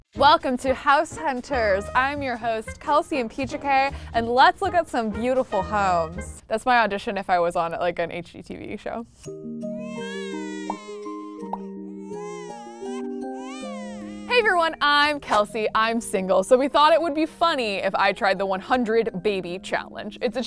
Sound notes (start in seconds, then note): 9.6 baby music plays; 9.7 baby cries